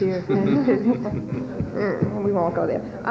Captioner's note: laughter